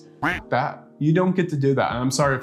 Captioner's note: quacking